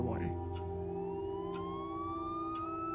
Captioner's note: siren wailing